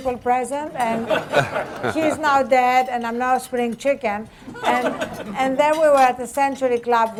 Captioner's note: laughter